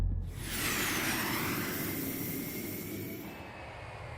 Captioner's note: airplane engine